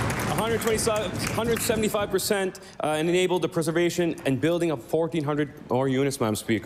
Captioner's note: cheering/Applause